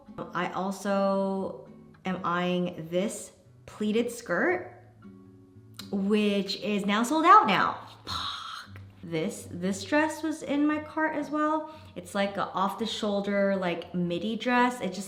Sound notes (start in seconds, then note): 8.4 hisses